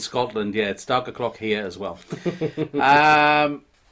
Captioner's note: chuckling